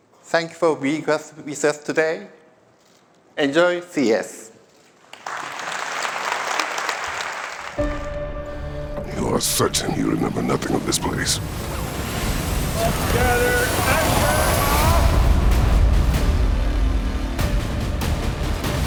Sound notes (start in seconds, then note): 5.0 applause